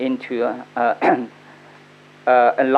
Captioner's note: coughs